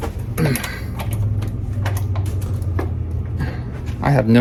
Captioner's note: door clicking continues